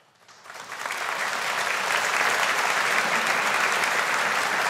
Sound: audience applauding

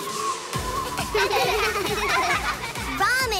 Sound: laughing

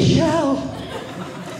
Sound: audience laughing

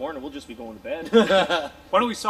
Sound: laughing

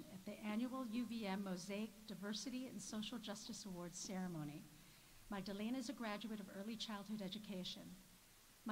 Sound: none

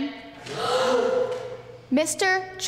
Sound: audience gasps

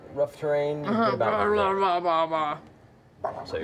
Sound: grumbling

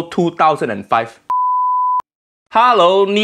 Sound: beep

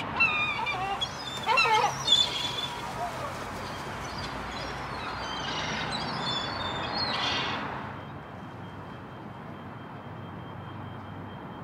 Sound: seagulls squawking

